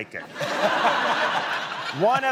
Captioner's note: laughter